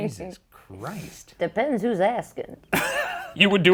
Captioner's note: laughs